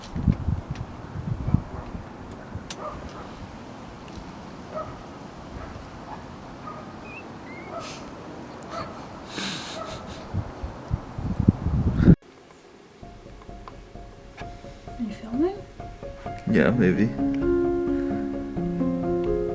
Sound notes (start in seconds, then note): 2.7 click; 7.6 distressed guinea pig noises; 9.4 laughing noises; 13.0 end music